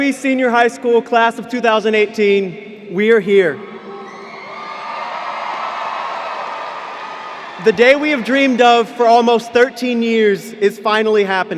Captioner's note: cheers